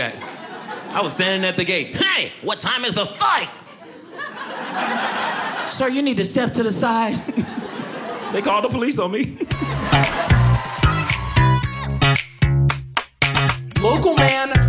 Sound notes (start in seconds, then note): 3.6 audience laughing